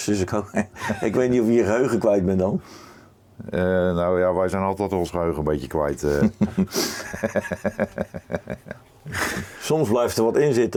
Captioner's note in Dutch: gelach